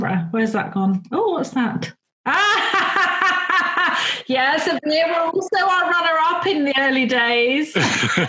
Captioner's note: laughs